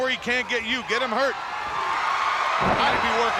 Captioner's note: body thudding